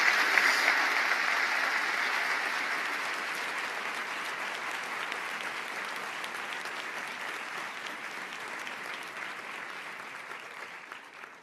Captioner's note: applause